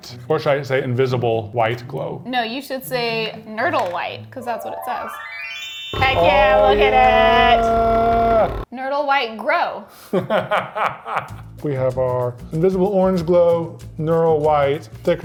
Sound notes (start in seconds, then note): 4.4 ethereal music; 10.1 laughs